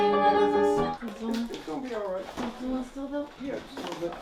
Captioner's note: indistinct chatter